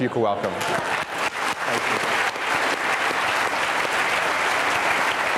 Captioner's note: audience applauding loudly